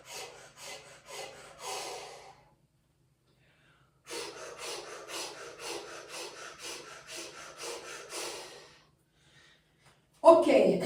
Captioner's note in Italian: sbuffare